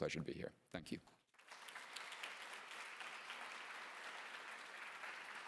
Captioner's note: applause